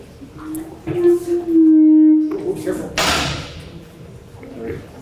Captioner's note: audio feedback